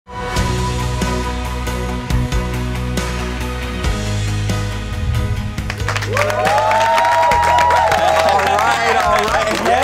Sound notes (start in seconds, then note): 0.1 upbeat music; 5.6 all applaud